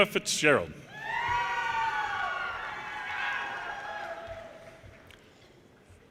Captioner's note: audience cheers and applause